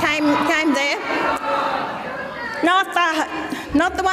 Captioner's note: audience mumbles